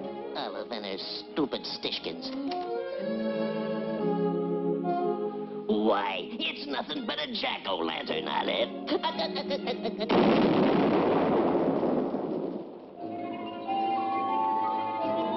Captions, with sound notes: Olive and her stupidstitions. Why, it's nothing but a jack-o-lantern, Olive. [laughs] [explosion]